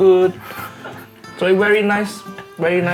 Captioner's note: chuckles